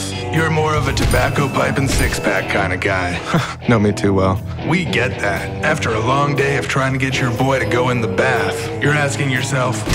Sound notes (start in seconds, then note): 3.1 chuckles